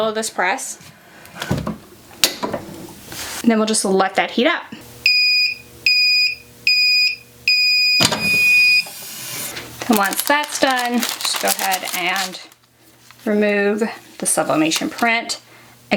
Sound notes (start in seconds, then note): 5.2 press beeping